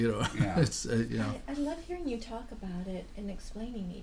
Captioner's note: voiceover